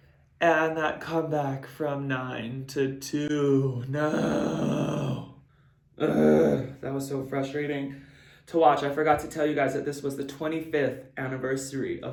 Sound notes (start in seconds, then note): 6.0 grunts